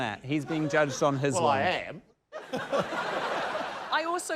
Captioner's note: laughter